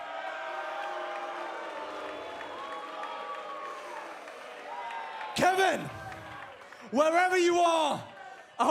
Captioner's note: cheers & boos